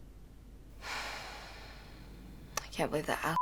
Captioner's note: sighs